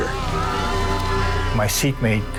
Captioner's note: passengers shouting